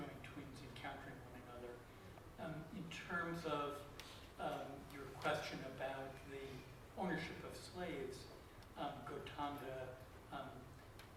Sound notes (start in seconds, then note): none